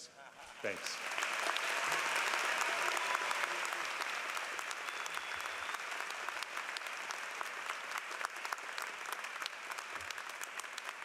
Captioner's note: applause